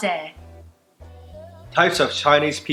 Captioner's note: speaking foreign language